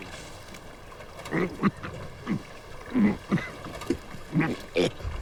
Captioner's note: coughing